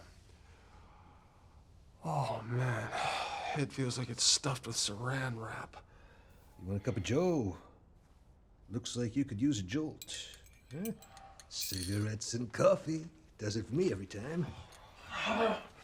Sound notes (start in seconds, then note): none